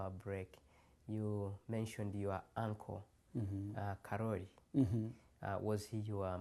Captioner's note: non-english